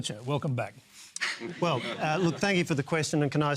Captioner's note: mild laughter